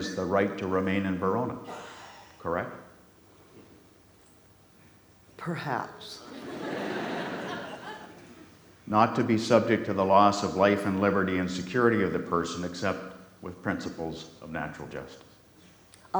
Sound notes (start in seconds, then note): 6.3 audience laughs